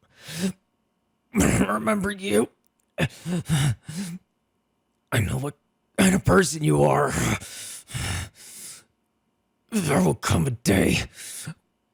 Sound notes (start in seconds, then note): 0.1 inhale; 3.1 catching his breath; 7.4 painful breathing; 11.1 inhale